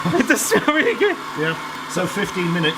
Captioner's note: laughs